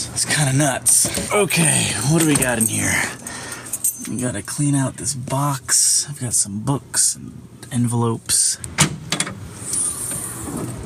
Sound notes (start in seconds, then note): 1.1 car door opening; 3.3 keys jingling, items jostling